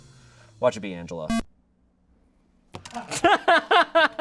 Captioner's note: electronic beep; laughing